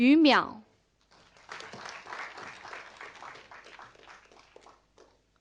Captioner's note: audience applauding